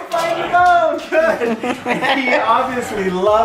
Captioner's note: laughing